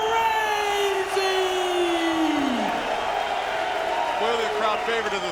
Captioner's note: audience cheering